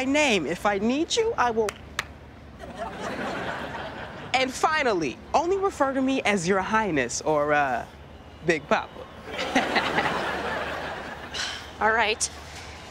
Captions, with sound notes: If I need you, I will... [claps] And finally, only refer to me as "Your Highness". Or, uh... Big Papa. [laughs] [sighing] All right.